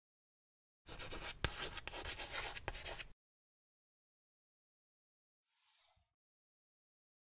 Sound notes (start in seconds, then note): 0.8 chalk scratching